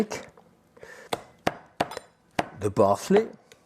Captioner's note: knife thumping